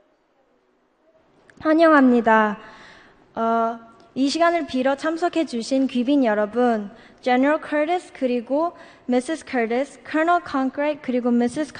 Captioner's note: foreign Language